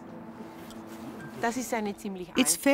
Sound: speaking in foreign language

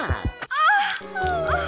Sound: another earrape at 0:47

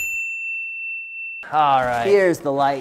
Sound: bell rings

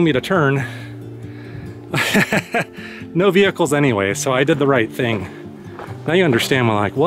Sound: laughs

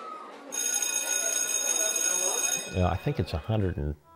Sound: bell ringing

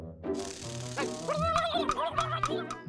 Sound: gobbles angrily

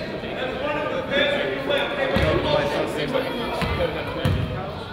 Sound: coach yells

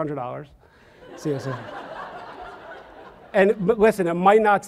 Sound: audience laughs

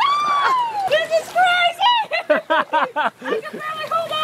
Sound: laughing

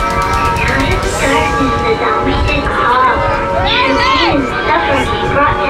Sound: girl speaking over bus intercom

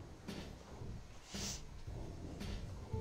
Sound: sniffs

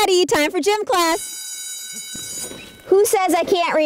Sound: bell rings

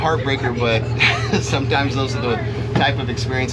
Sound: chuckling

